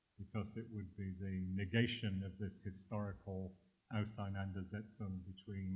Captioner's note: german